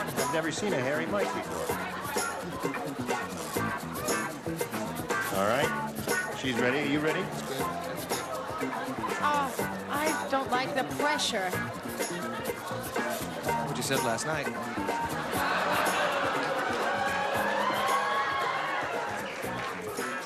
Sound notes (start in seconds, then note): 15.2 laughter; 17.7 cheering